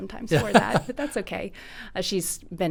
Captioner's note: chuckles